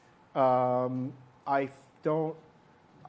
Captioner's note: none